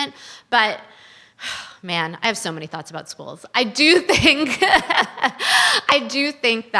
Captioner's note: sighs